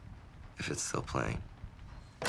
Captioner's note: none